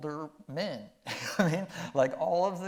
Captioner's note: chuckling